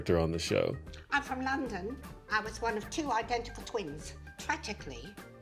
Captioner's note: cockney accent